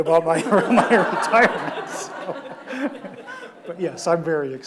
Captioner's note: audience laughs